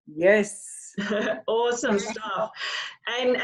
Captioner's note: chuckles